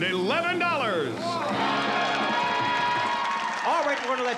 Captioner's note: applause